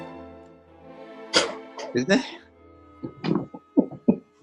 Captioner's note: splutters